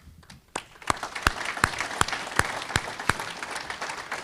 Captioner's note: audience clapping